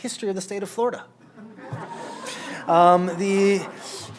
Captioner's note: laughter